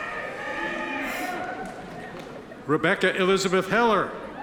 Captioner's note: audience members cheer